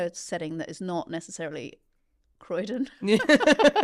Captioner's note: both laughing